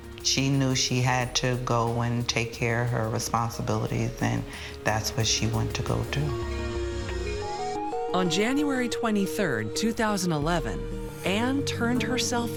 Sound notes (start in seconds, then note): 6.4 police siren blaring